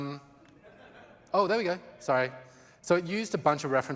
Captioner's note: laughter